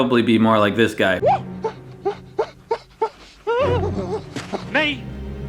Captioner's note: nervous, Insane Laughter